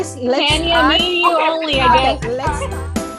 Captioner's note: group chattering